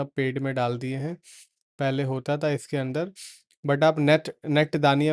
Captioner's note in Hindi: नाक से की जाने वाली आवाज़